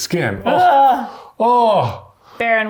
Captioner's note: groaning